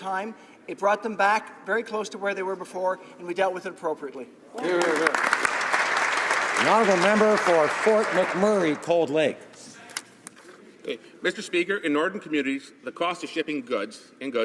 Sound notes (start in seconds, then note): 8.3 some Applause